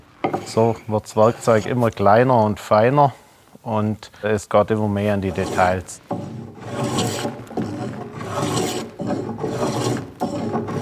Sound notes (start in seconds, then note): 9.0 scraping sound